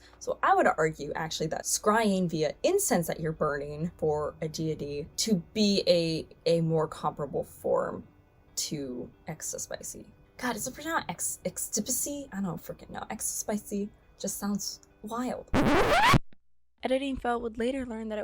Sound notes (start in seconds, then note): 15.5 record scratching